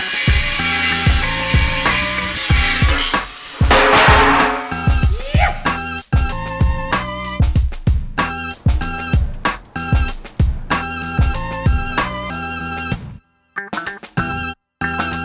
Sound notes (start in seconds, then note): 0.0 sawing; 3.6 clang